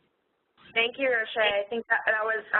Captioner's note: voiceover